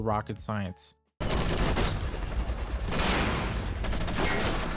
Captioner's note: gunfire